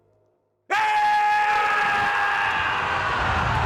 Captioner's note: yelling